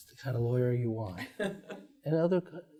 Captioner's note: laughs